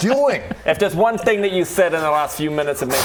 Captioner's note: even more rubbing